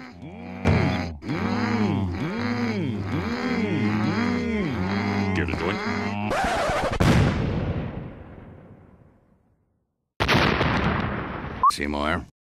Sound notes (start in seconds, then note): 0.0 Homer, Marge and Skinner making Mmm! sounds